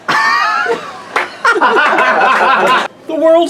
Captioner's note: laughs